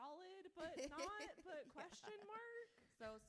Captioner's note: author laughs